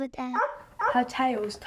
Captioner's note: barking